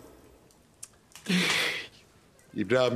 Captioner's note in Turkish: Nefes sesi